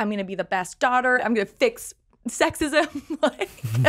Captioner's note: laughs